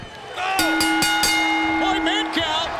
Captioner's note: bell rings